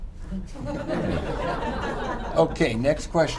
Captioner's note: laughter